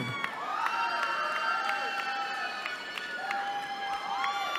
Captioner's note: cheering